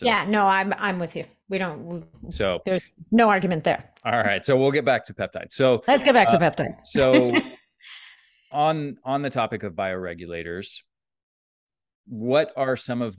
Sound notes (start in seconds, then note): 6.9 chuckles